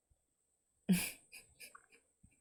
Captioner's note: chuckles